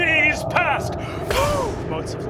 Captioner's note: blowing